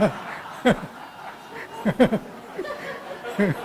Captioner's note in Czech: smích